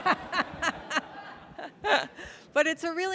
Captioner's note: audience laughing